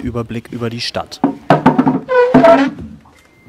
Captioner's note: creaking